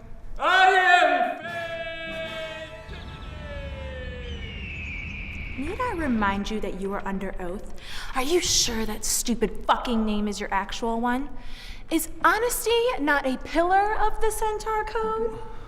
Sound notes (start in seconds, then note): 4.0 eagle screeches